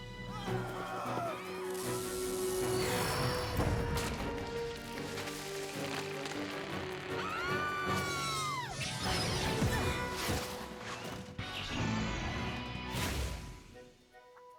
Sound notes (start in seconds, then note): 0.3 shouts; 7.1 screams; 9.0 zaps